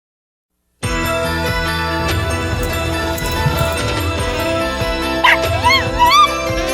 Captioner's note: Caprice hisses and meows and Ella barks